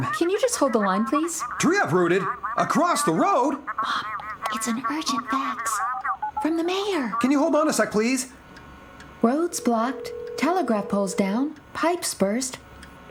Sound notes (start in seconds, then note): 3.5 whispering